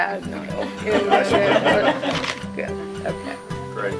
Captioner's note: audience laughing